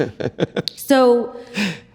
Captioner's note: chuckles